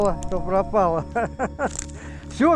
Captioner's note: laughs